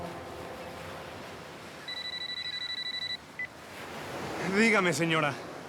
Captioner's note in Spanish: Suena el celular